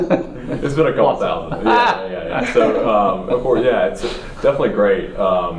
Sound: laugh

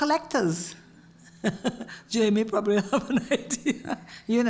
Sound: laugh

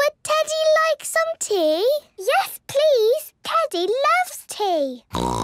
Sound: snort

